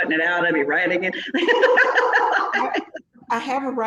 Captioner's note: laughs